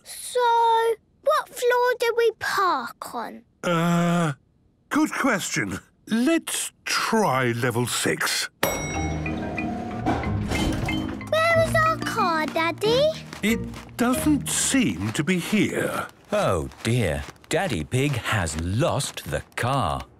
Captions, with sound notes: - So, what floor did we park on? - Ugh... Good question. Let's try level six. - (elevator dings) - Where is our car, Daddy? - It doesn't seem to be here. - Oh, dear! Daddy Pig has lost the car!